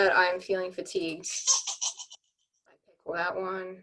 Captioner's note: creatures squeaking